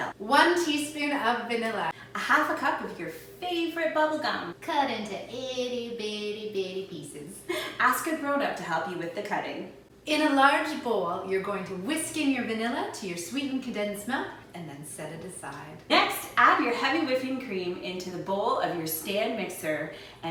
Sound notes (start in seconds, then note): none